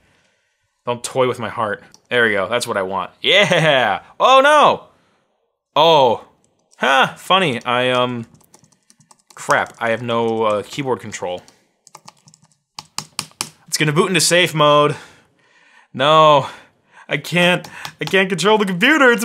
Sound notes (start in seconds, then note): 11.8 keys tapping hard